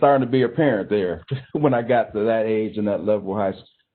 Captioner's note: chuckling